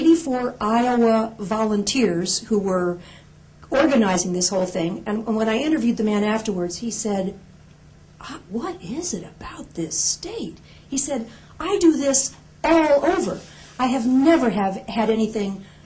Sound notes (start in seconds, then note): none